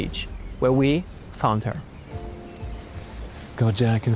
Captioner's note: birds chirping